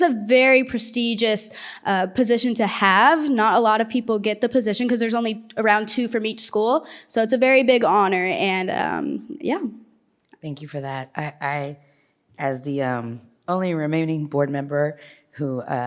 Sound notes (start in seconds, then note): none